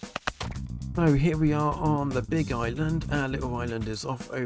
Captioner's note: sped up rowing and digging